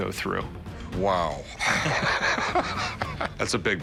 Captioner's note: laughs